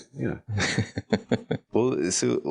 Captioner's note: laughing